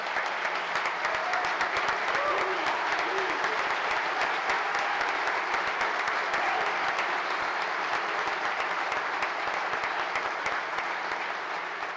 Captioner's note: applause